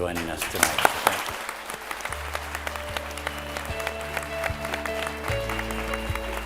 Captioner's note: attendees applauding